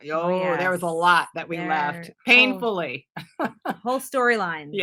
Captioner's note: laughs